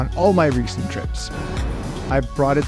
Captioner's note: wind blowing